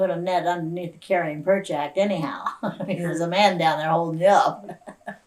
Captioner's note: laughs